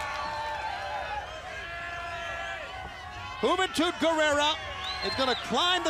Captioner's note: crowd cheering